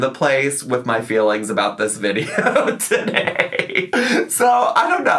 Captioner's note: laughs